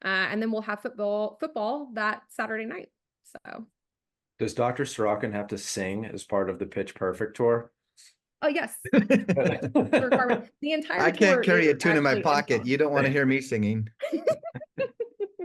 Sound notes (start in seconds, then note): 8.8 laugh